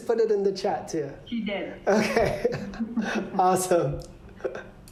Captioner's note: laughter